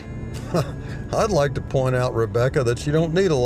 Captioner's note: laughs